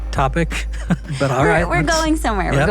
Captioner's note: chuckles